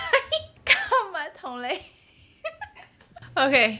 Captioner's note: laughter; laugher